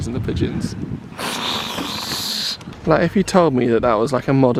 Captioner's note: sputtering